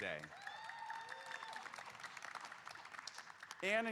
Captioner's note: audience applauding and cheering